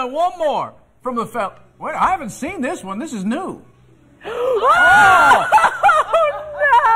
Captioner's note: laughter